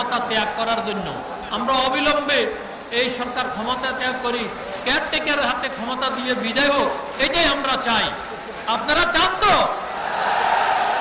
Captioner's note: public shouts, "Yes"